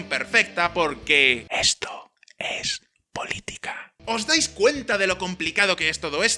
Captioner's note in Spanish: susurrado